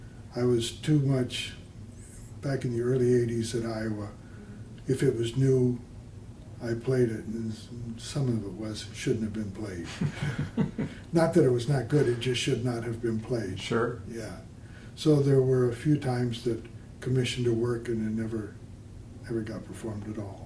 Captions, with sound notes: I was too much, back in the early '80s at Iowa, if it was new, I played it and some of it was-shouldn't have been played. (laughter) Not that it was not good, it just should not have been played, Sure. Yeah. So there were a few times that commissioned a work and it never, ever got performed at all.